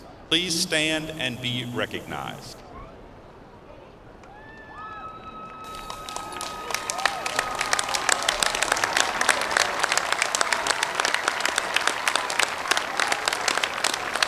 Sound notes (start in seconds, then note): 6.6 applause